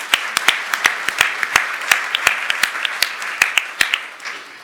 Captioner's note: applause